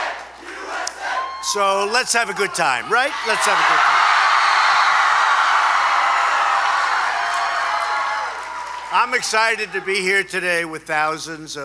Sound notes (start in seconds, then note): 3.6 applause